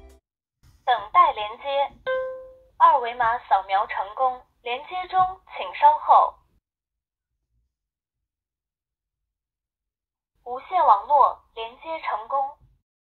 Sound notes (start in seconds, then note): 0.8 camera speaks Chinese